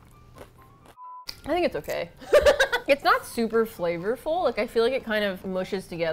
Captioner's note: laughs